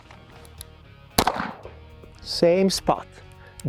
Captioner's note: gun popping